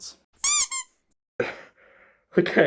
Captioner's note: duck toy squeak